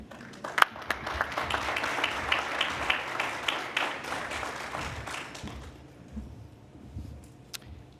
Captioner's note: applause